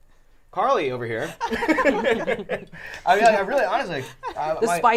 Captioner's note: all laughing